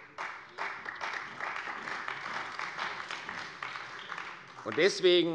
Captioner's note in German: Beifall bei der CDU